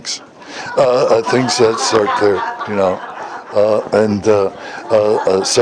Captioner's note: Смех